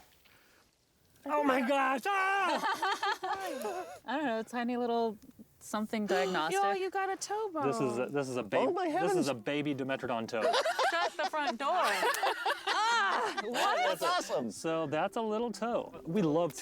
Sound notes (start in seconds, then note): 2.4 laughs; 10.4 laughter